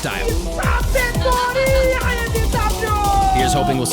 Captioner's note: foreign shoutcasters yelling